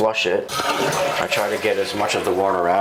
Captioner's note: flushing sound